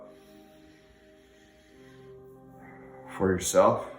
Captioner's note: breathing deeply